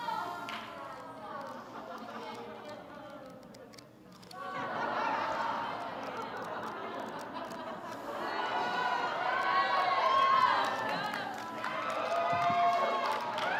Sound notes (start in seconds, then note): 4.3 laughter; 9.4 clapping